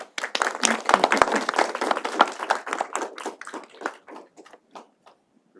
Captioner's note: applause